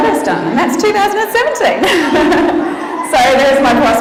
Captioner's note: laughs